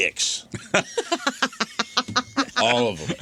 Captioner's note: laughing